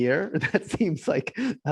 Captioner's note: laughing